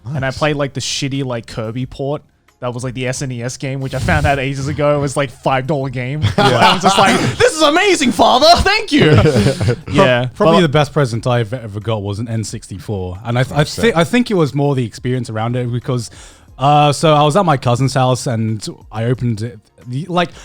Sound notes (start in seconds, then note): 6.2 all laughing; 8.9 chuckling